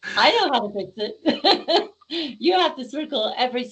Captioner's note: laughing